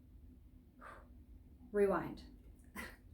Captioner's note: phew